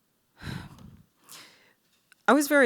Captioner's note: sigh